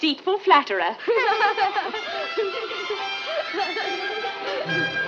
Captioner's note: children laughing